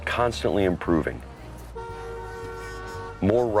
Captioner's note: car hooting